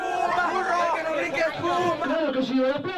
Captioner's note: crowd cheering